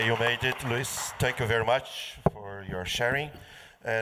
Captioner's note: applause